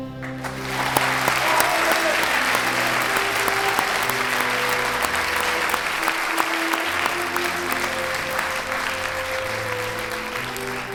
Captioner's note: applause and cheering